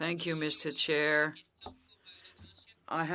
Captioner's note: speaking French